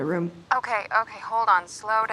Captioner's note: on phone